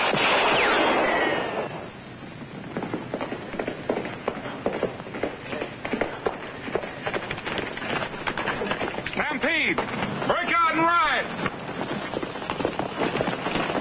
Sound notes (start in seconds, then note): 0.0 gunfire and fast music; 1.2 hoofbeats; 11.3 hoofbeats